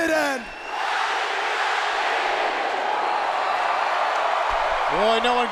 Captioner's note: crowd cheering